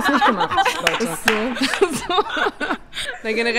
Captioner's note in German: Gelächter